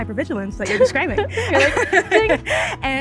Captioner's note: laughter